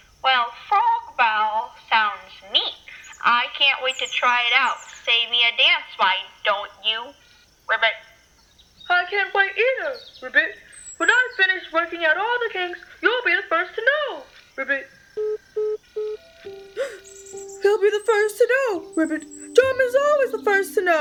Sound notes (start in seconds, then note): 16.1 soft piano music starts; 16.7 electric repeating sound, gasp